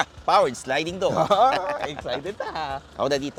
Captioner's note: laughs